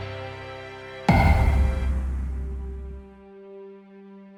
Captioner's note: thud